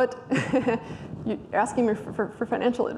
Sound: laughs

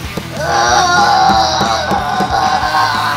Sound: moaning

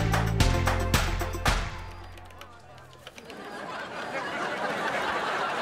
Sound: beeping

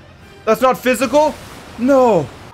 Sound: none

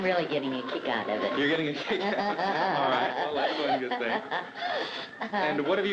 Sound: laughs

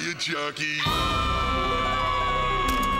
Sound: screaming

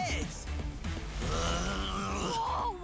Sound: angry grumbling

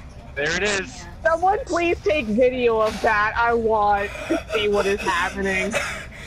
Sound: wheezing laughter

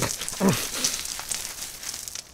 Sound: grunt

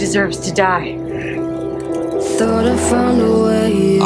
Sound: flames crackle

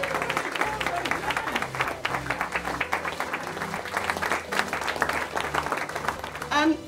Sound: clapping

